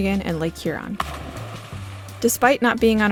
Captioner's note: splashing